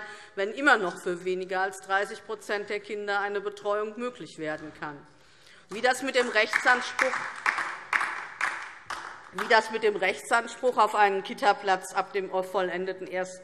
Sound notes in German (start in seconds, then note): 5.7 Beifall DIE LINKE